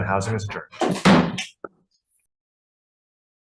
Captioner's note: gavel taps